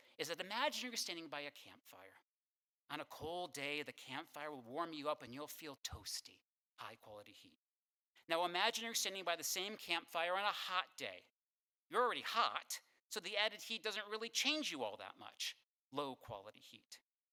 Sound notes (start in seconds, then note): none